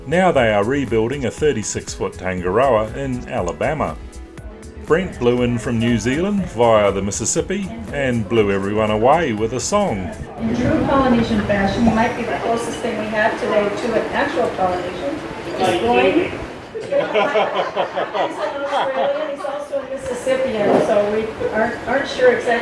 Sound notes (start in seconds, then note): 17.6 laughs